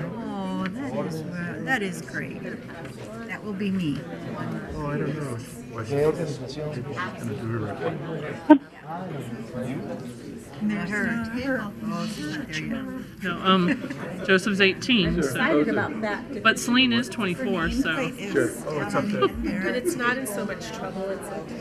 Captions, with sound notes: Oh, that is great. That will be me. (people chattering) - Joseph's 18, so. But Selena's 24, so. (people chattering)